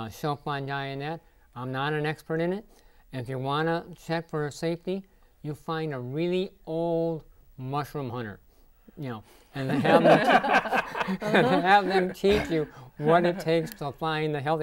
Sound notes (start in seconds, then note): 9.6 laughing